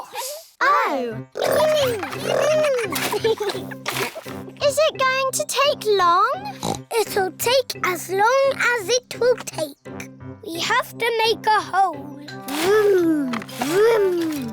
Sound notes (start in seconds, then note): 6.4 oinks